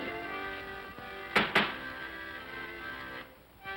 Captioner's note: bangs on desk; accordion plays